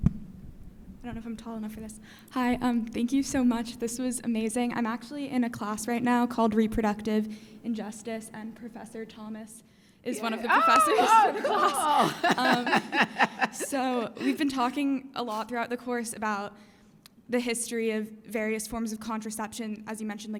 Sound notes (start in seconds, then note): 12.2 laughs